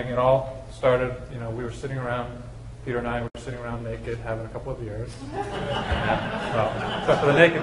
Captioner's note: laughter